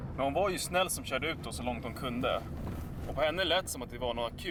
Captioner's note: car driving